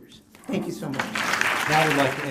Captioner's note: applause